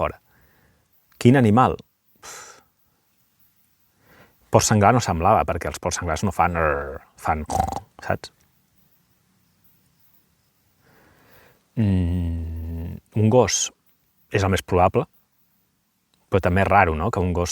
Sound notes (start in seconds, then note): 7.4 pig's grunt